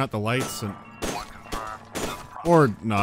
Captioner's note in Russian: огонь очередями